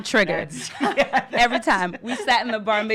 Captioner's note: laughter